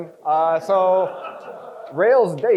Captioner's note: crowd chuckles